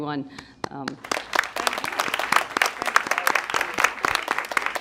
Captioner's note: applause